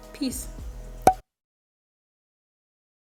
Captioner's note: sound of cork bottle popping